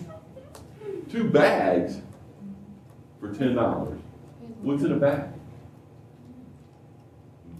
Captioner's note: laughter